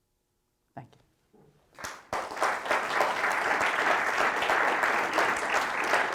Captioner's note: applause